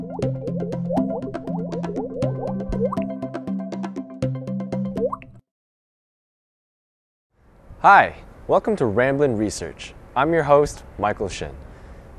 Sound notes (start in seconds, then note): 1.9 bubbly sound effects